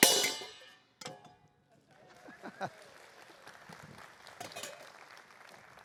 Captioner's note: applause